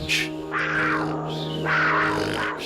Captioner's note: growling